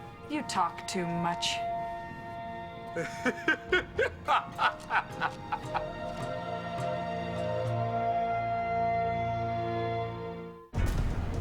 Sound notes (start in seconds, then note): 2.9 laughing; 10.2 dramatic orchestral music